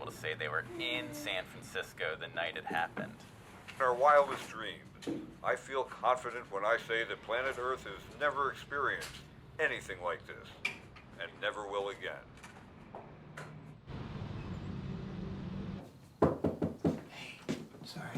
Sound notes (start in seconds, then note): 16.2 knock on the door